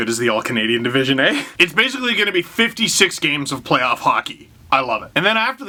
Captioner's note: laughs